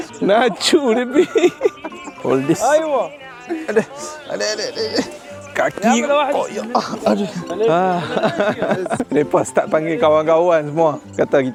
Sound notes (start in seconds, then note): 0.0 laugh; 1.9 laugh; 4.3 speaking Arabic; 7.8 laugh